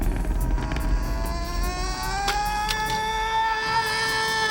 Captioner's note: coyote screaming